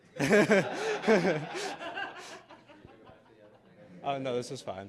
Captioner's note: laughter